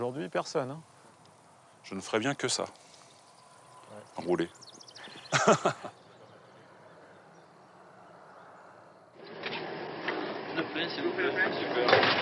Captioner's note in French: Bruit de pompiste